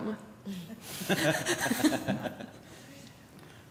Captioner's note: laughter